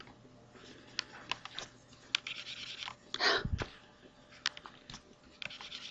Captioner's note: mouse scribbles, teacher huffs